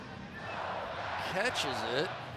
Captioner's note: crowd chanting "go packs go"